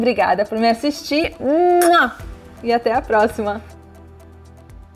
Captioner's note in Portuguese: Muah